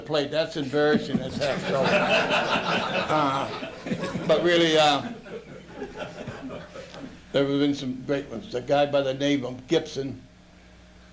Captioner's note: luaghter